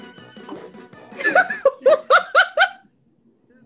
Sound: laughs

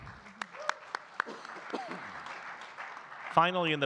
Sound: audience clapping

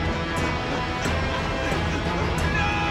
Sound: tense music; panting

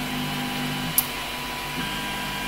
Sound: click

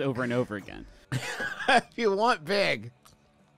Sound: laughing

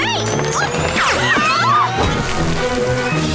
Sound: screaming

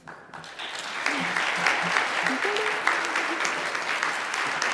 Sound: audience applauds

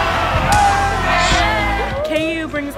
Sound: crowd yelling

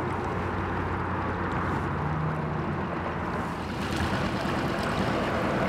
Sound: boat engine revving

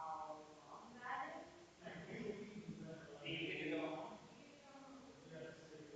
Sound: people chattering distantly continues

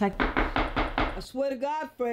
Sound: knock, knock, knock

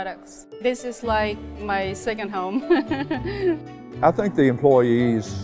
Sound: laughs

